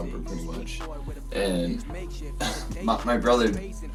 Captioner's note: laughs